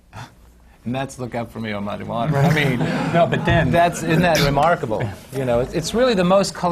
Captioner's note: laughter